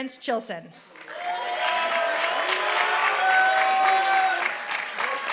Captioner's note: applause